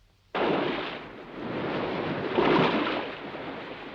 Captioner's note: waves crashing